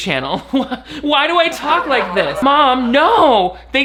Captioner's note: audience laughs